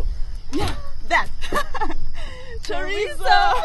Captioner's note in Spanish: Risas